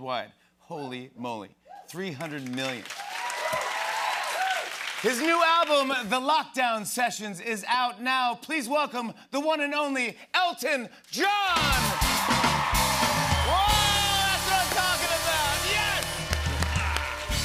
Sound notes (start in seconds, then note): 2.3 cheers and applause; 11.4 cheers and applause